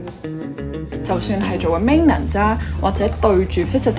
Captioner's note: Cantonese